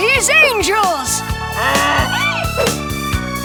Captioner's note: braying